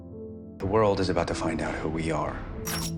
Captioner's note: voiceover